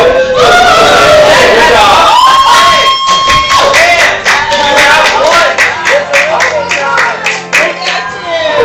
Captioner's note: cheering